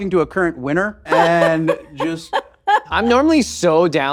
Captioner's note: laughing